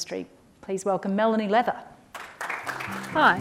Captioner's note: applause